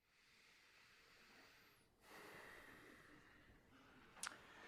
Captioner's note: breathing heavily